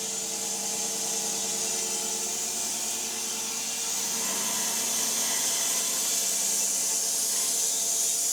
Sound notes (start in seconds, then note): 3.4 saw buzzing